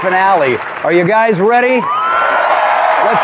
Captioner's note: cheering